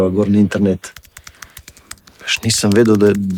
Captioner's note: typing